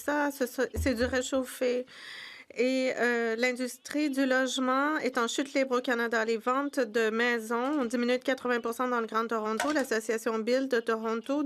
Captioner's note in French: voix de l'interprète